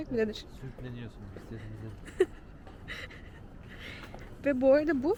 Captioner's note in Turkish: kahkaha